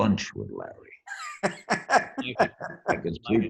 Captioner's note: all laugh